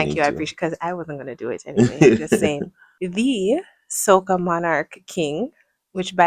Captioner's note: laughter